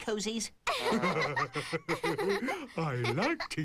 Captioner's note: laughing